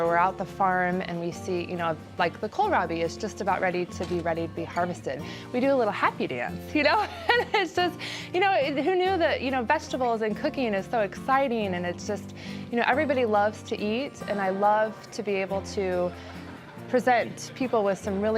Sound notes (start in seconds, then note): 6.9 laughs